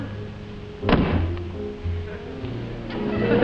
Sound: door slamming; audience laughing

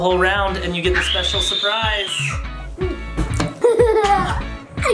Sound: screams

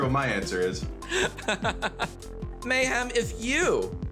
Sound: laughing

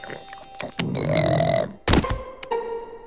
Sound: burping

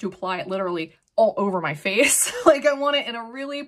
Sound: chuckles

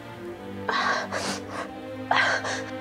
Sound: sniffs

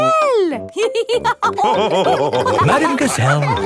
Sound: all laughing

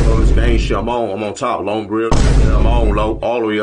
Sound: vine thud; vine thud

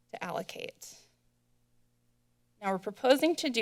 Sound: silence

